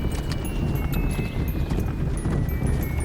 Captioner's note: horse hooves